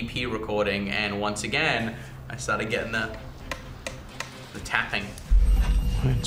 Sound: taps

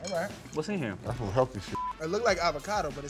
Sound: beep

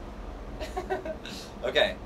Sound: laughs

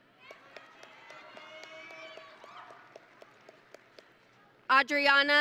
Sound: audience and graduates cheering

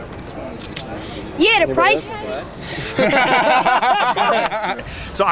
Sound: laughter

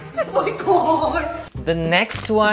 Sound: laughs

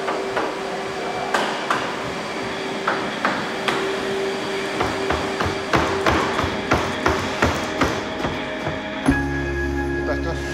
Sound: banging

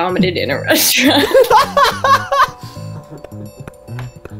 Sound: man laughs

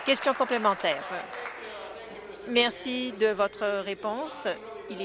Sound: applause

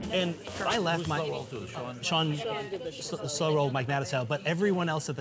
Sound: table chatter

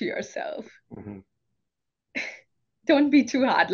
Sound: humming

